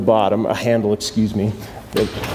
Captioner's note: garage door rattling